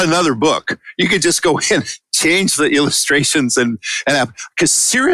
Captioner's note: chuckle